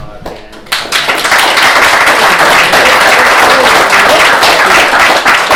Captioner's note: applause